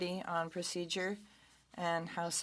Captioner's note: speaking French